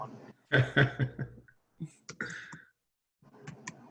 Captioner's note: laughing